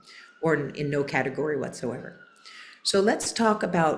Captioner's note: sirens in background